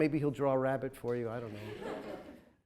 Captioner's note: audience chuckles